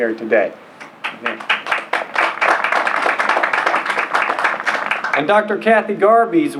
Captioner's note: applause